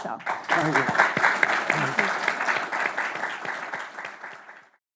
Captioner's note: audience applauds